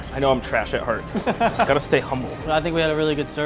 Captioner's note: laughs